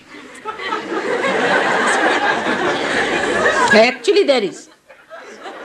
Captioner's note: laughter